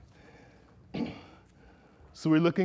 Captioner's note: clears throat